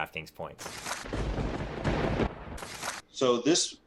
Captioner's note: thunder cracks